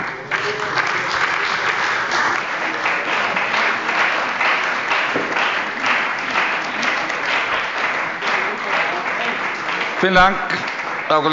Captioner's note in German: Beifall bei der CDU und dem BÜNDNIS 90/DIE GRÜNEN